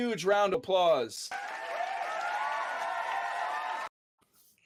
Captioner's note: cheers and applause